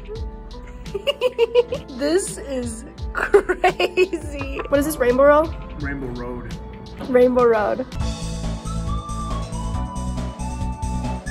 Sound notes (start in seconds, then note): 0.8 laughs; 8.2 cheerful music